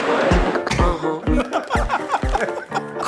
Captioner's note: laughs